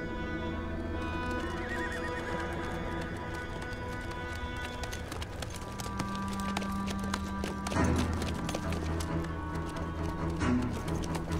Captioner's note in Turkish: Kişneme Sesi, Nal Sesleri